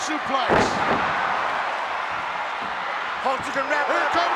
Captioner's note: Ted thudding